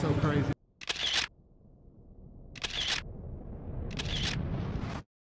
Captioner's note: camera clicking